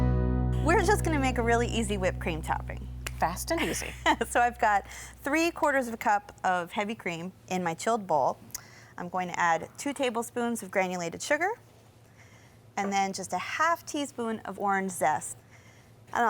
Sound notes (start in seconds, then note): 3.0 clicks fingers; 3.5 laughs